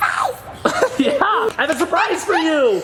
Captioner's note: laughs